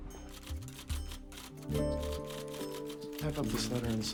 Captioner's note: typing